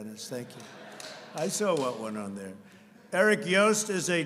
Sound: laughter

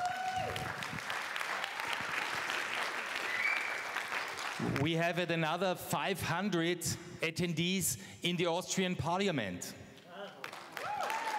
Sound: applause

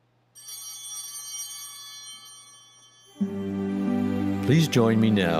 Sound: chimes ringing

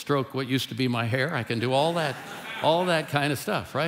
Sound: congregation laughing

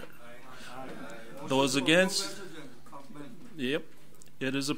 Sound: overlapping chattering

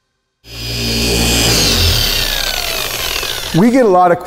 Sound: tool whirring

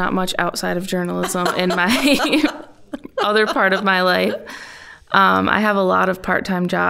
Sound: laughing

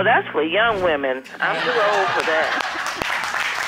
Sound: audience laughing

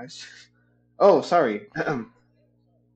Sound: clears throat

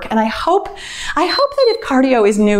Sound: timer beeps

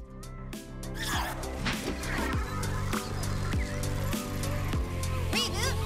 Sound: whizzing

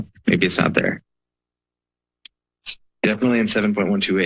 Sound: pause

